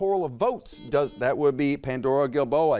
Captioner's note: buzzer beeps